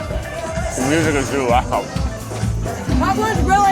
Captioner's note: laughs